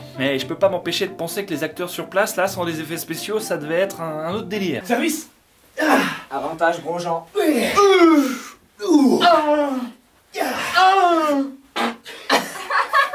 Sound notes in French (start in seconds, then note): 7.2 cris de joueurs de tennis; 11.8 pète, les autres rigolent